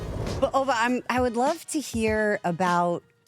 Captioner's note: none